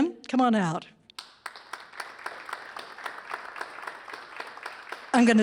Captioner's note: applause